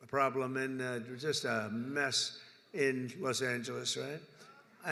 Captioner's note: none